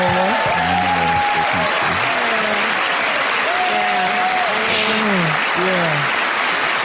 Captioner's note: audience clapping and cheering